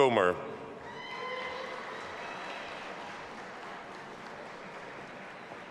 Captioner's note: audience applauding and cheering